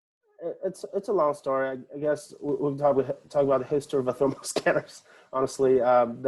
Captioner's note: laughing